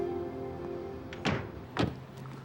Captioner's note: door closes